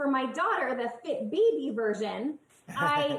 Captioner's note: laughs